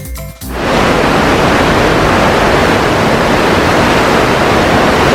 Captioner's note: noise of the engines and ship's wake